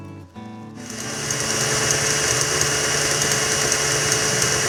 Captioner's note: mixer shirring